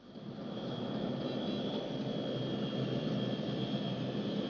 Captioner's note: plane whirring